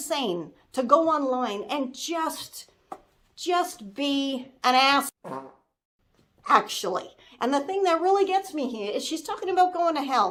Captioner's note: fart sound